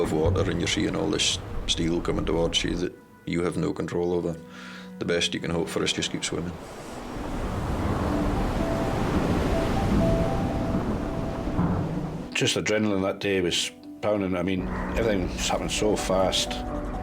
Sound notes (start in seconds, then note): 7.7 gentle music; 7.7 waves roaring